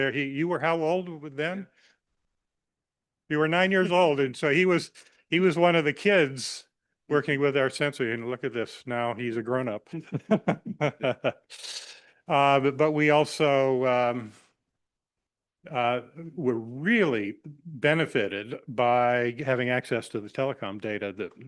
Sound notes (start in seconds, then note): 9.9 laughs